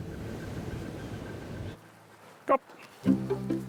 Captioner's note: wind blows; light music